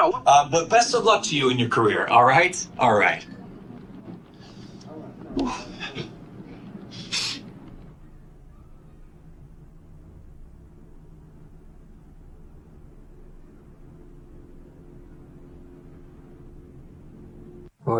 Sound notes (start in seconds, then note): 3.6 background office noise; 5.3 sigh of relief; 6.4 background office noise; 7.0 sniffs; 8.0 background neighborhood noise; 11.6 helicopter; 14.2 children playing